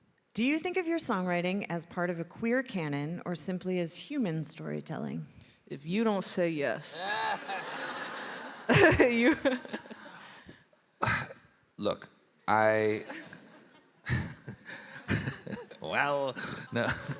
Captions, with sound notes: - Do you think of your songwriting as part of a Queer cannon or simply as human storytelling? - If you don't say yes. [all laughing] - Look, I, [laughs] well, no,